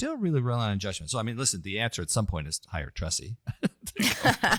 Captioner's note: laugh